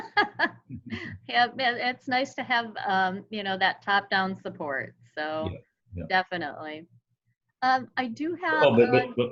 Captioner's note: laughter